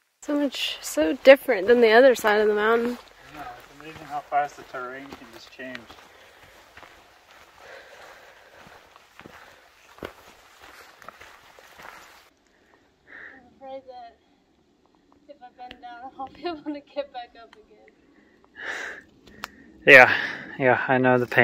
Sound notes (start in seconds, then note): 2.3 wind